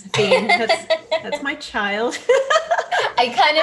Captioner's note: laughs